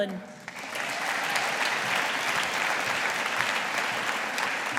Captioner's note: audience applauding